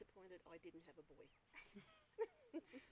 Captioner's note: both laugh